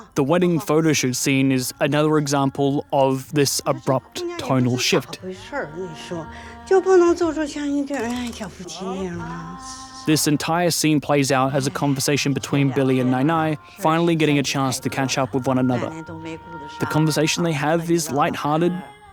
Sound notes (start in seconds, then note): 4.8 in mandarin